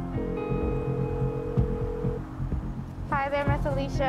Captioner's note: phone ringing